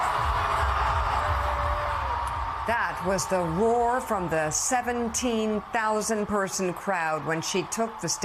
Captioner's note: cheers and applause